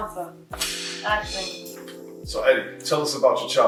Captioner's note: clapper board clicks